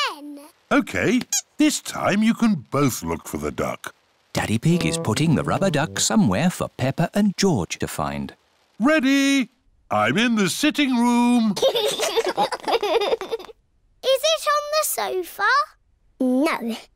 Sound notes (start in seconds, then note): 11.5 laughter